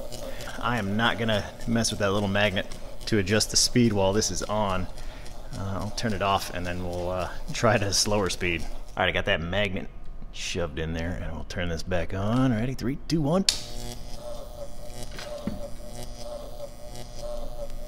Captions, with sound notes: I am NOT gonna mess with that little magnet to adjust the speed while this is on. I'll turn it off and then we'll try it at a slower speed. Alright, I got that magnet shoved in there and we'll turn this back on... ready 3, 2, 1... [switch clicks] [electricity zapping slower]